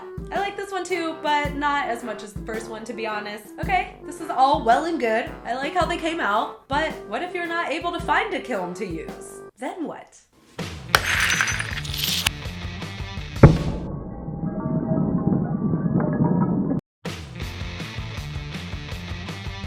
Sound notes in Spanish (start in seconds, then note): 10.9 sonido de vidrio rompiéndose